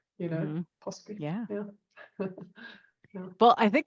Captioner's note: laughs